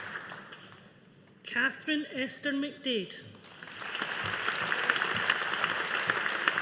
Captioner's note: audience applauding